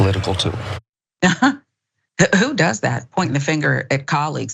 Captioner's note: laugh